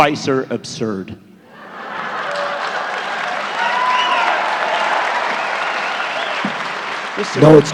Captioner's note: laughter, cheering